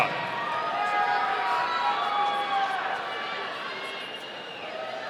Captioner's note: audience cheering